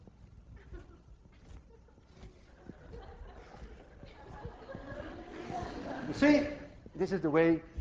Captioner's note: class laughs